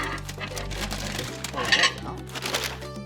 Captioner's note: plate scraping; paper crinkling